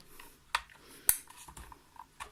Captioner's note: ethernet cable clicks in place